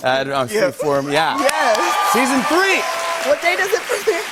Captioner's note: cheers and applause